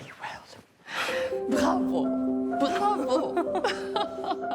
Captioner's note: laughs